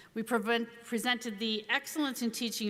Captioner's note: none